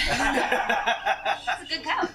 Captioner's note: laughter